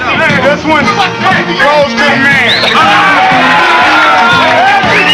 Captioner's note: cheers and applause